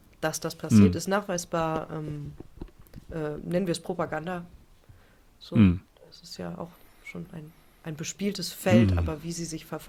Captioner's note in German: räuspern